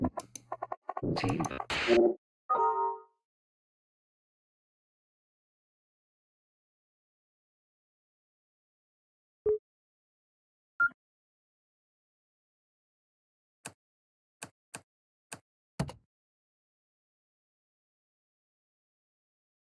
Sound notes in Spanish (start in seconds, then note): 10.2 Pitido